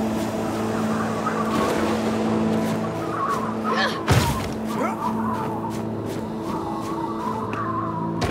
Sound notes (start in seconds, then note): 1.6 sirens blaring